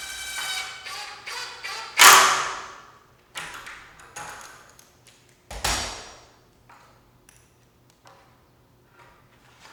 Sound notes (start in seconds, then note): 0.0 tool whirs; 5.4 tools clanking